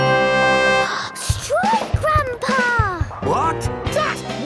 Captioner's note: gasps